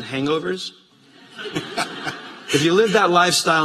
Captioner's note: laughter